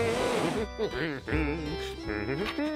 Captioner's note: humming